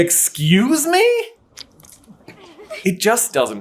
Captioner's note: splurts